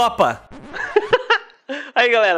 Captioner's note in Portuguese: risos